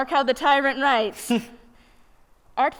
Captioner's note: chuckles